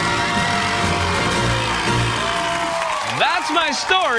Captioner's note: cheers